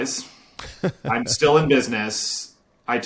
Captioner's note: laughing